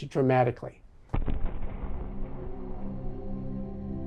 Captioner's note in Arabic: دوي مدوي